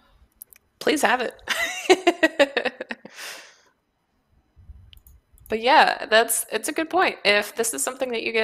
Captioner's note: laughs